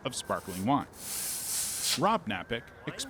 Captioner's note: wine spraying